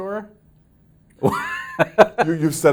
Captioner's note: laughs